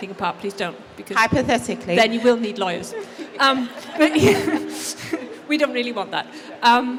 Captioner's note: laughs